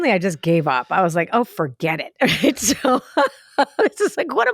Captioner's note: laughs